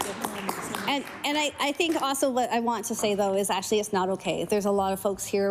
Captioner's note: applause